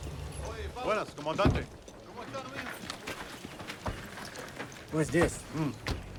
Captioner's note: officer and soldier speaking Spanish